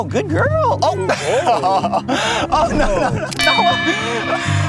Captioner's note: laughs